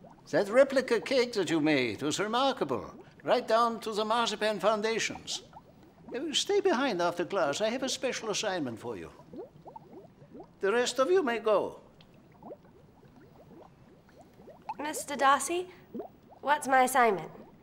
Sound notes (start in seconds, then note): 11.3 beakers bubbling